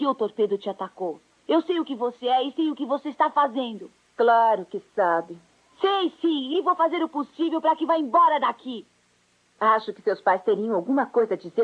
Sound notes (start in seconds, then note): none